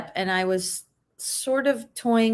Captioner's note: none